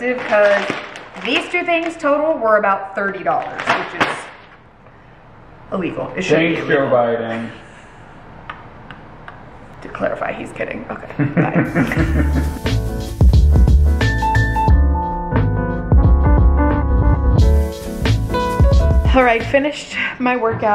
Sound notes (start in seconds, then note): 7.6 laughing; 11.1 laughing; 11.9 relaxing piano music